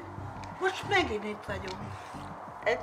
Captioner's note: in Hungarian